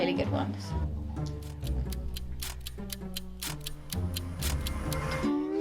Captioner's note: light music; clock ticking; guitar strings clang